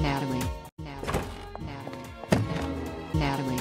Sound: door sound

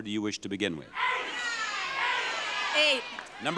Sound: audience shouting

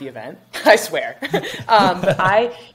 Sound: chuckles

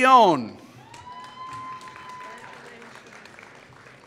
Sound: applause

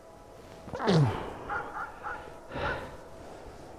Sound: dog barking

